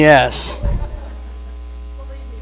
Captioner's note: audience laughs